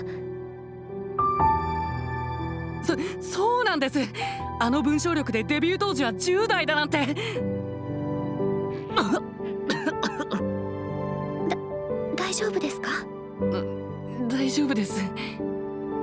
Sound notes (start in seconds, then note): 9.6 cough